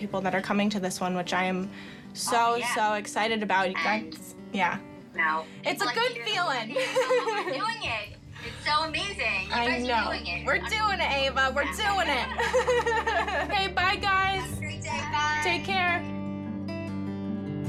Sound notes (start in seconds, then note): 6.7 laughs; 11.8 all laugh